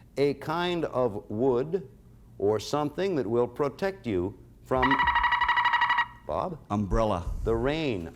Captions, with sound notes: a kind of wood, or something that will protect you from... -(buzzer sounds) -Bob. -Umbrella. -The rain?